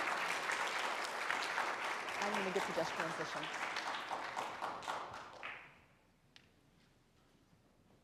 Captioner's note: applause